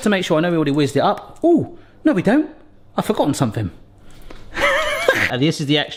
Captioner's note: laughs